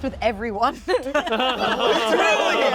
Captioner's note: everyone laughs